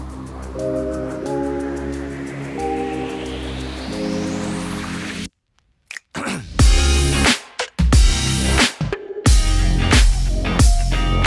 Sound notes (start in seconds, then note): 0.0 mellow digital music; 5.8 snapping and person clearing throat